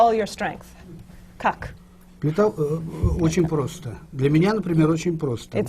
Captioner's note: foreign language not transcribed